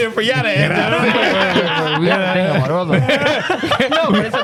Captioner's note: laughing